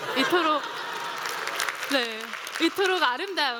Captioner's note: laughter